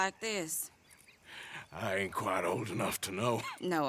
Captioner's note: laughs